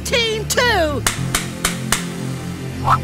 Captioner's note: smacking noises; Cartoonish "whoosh" noise plays as Teardrop pours the ice